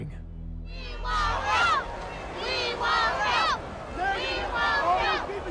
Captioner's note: chanting